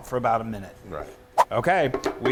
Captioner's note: swoosh